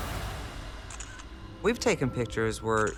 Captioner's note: camera clicks